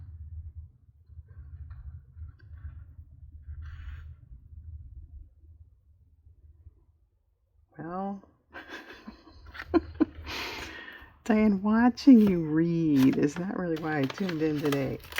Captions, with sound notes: well... (laughs) Diane, watching you read is not really why i tuned in today